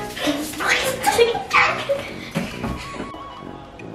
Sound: laughter

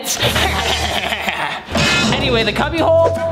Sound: laughs

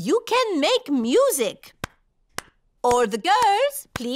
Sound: clapping

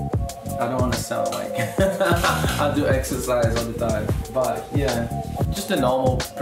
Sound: laughs

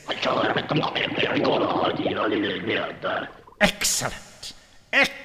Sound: creature speaking foreign language

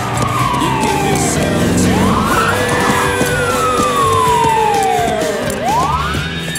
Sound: police sirens wail

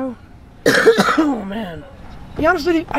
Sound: coughing

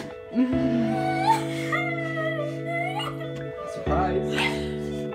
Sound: soft emotional music; crying

